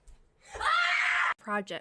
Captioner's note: screams